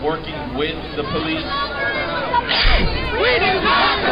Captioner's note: voiceover